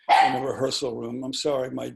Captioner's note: dog barking